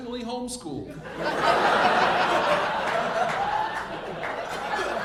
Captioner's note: audience laughing